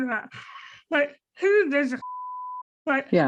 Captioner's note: beep